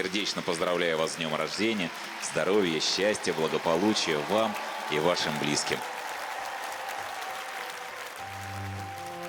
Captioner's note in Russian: аплодисменты